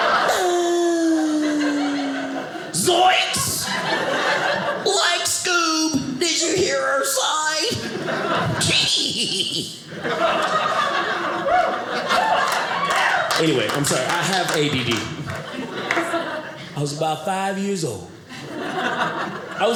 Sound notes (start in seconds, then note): 8.2 Scooby Doo laugh; 10.5 audience laughing